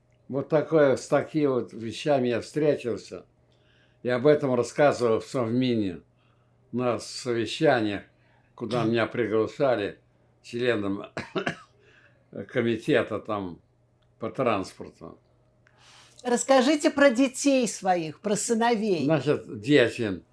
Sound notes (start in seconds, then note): 11.1 coughing